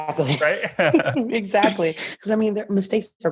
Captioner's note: chuckling